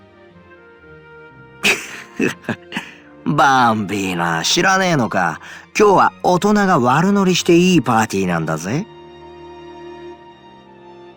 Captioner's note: chuckle